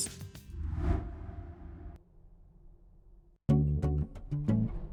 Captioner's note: swoosh effect; light instrumental music